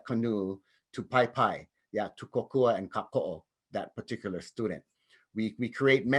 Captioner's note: speaks in native language